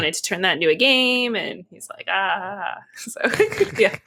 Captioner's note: laughs